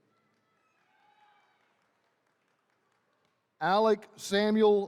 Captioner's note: attendees cheering